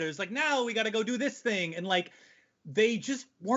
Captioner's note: none